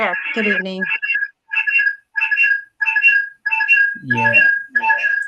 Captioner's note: phone audio breaking up